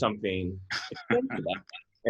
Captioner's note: laughs